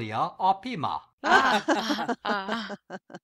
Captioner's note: laughing